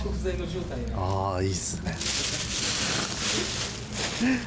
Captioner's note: laughs